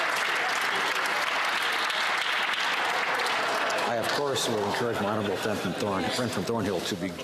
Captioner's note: some Applause